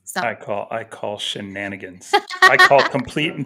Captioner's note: laughs